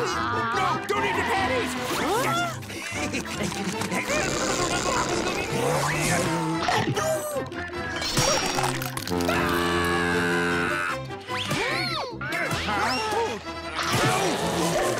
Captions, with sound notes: Don't eat the patties! [screaming]